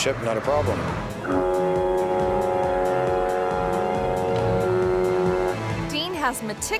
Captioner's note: suspenseful music; foghorn blaring